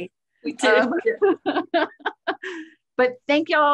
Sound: laughing

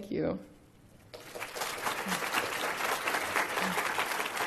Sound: applause

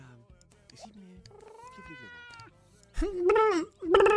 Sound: imitating the cat, sounding more like a starting engine filled with kittens

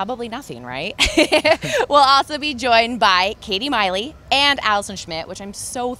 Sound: laughs

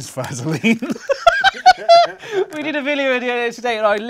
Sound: laughs

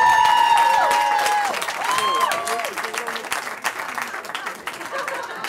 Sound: cheering

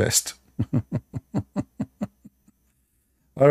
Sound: Ketawa

